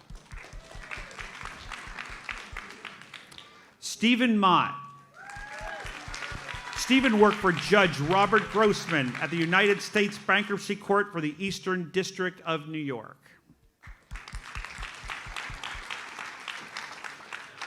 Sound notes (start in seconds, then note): 0.0 audience applauds; 5.1 audience cheers and applauds; 13.8 audience applauds